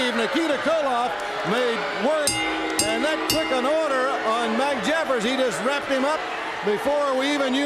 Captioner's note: bell ringing